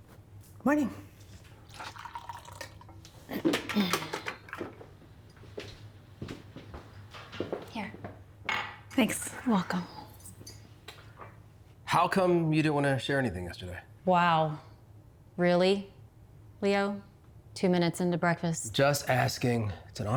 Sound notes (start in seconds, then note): 1.5 coffee pours; 4.0 throat clears; 6.1 feet stepping; 8.3 cup thuds